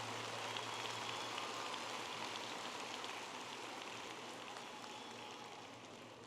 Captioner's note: audience applauding and cheering